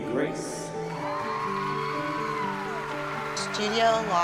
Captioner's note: cheering and applause